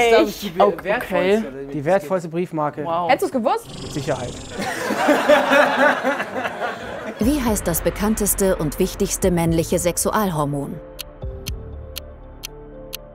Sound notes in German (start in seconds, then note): 3.7 Lachen